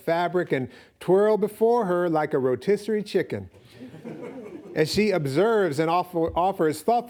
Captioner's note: audience laughing